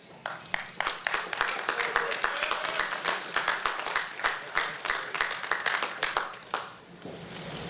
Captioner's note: applause